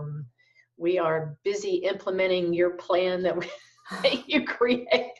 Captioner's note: laughs